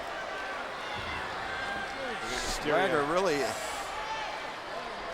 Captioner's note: applause